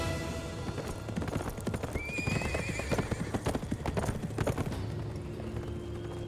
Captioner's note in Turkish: At nalı sesleri